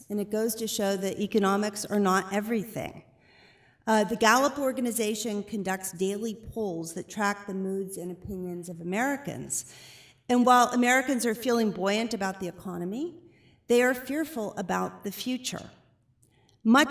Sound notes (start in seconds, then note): none